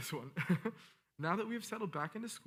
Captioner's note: laughing